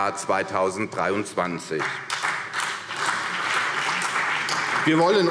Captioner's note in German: Beifall